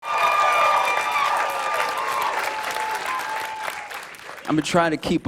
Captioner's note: cheers and applause